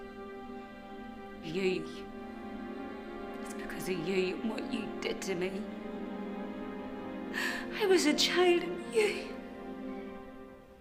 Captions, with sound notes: - You. It's because of you and what you did to me. I was a child and you... (sobbing)